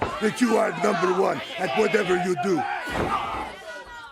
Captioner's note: crowd chatter